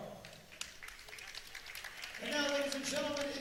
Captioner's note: audience claps